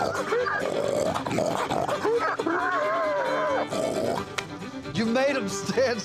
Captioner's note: continues grunting; laughs